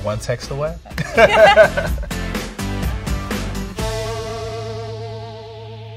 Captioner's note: laughing